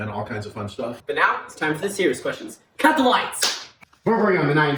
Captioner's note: hand clap